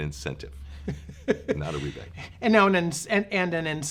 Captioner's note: laughs